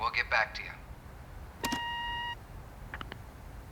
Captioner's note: beep, click